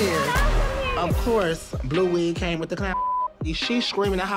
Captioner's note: beep